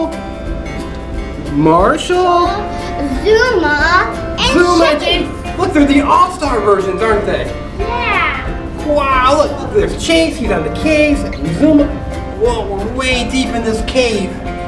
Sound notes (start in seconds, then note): 3.0 voiceover; 9.2 voiceover